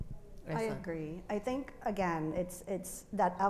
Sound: speaks faintly

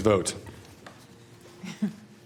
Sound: laughter

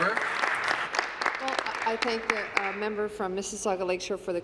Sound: applause

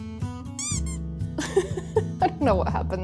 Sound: laughs

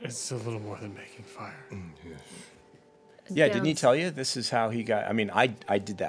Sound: none

